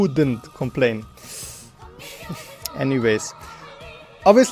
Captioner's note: sigh